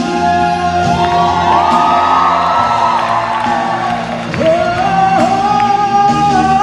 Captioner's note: cheering; lyrics in foreign language